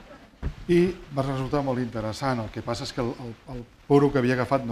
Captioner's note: speaking spanish